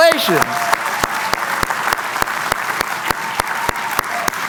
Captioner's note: cheering